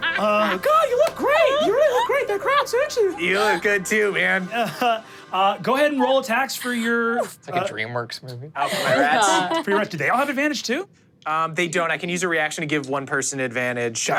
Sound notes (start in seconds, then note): 4.4 chuckles